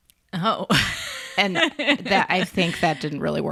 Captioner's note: laughs